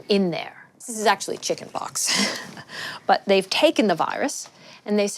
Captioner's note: chuckles